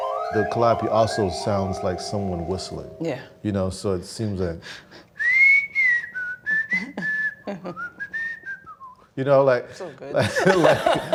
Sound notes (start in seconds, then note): 5.2 whistles a melody; 10.2 laughs